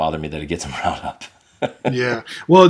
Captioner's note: laughing